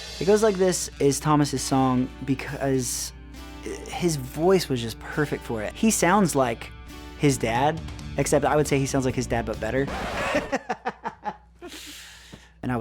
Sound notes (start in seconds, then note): 9.8 disc scratching; 9.8 laughing